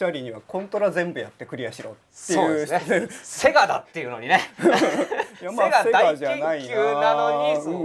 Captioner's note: laugh